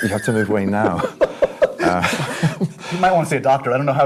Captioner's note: laughs